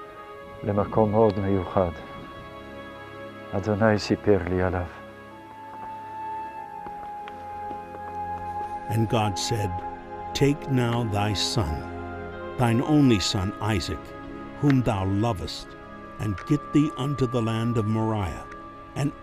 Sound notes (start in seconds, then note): 3.2 speaking in Hebrew